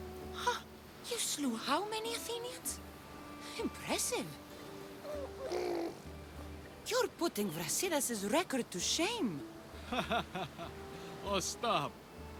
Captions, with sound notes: Huh... ...you slew HOW many Athenians!? Impressive! (baby sounds) You’re putting Brasidas’s record to shame! (laughs) Oh stop!